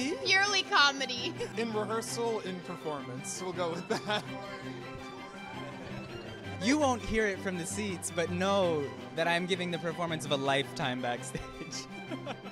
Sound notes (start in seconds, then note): 4.3 people chatter; 12.3 gentle music